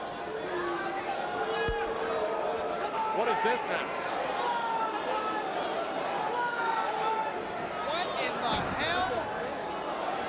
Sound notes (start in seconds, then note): 0.8 crowd vocalizing; 4.5 crowd vocalizing